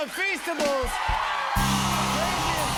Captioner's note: cheers and applause